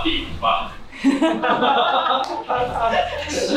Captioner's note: haahahha